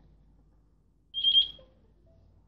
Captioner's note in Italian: beep